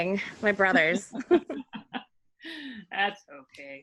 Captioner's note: laughing